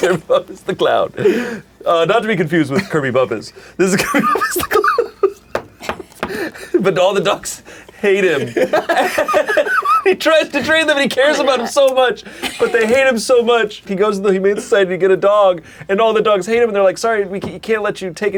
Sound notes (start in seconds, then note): 3.9 laughs; 8.3 laughs